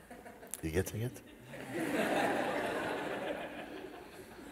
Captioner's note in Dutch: gelach